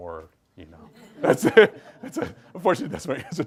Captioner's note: group laughs